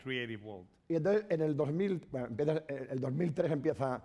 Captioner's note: speaking spanish